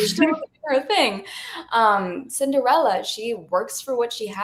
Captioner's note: laughs